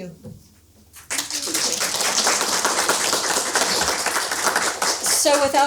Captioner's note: audience applauding